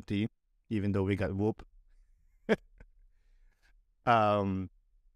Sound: laughter

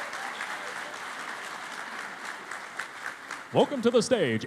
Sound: cheering and Applause

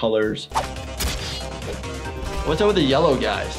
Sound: active music; weapon slashing

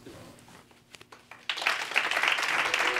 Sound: applause

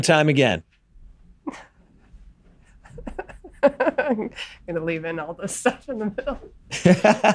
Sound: laughs; Glenn laughs

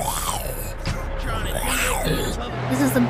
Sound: growl

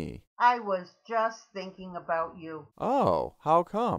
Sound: voiceover

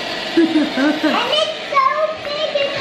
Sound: laughs

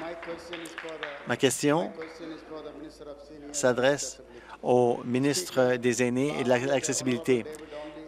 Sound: applause

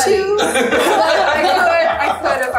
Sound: all laughing

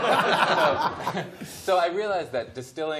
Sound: laughter

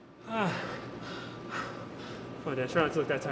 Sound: gasping

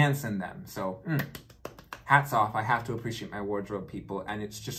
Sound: claps

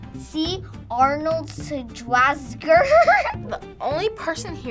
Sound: laughs

